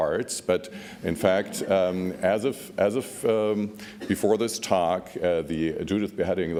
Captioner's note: laughs